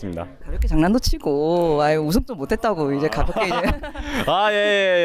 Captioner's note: laughs